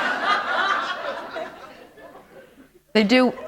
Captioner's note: laughter